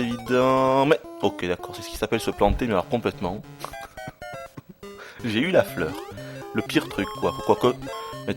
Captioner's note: laughs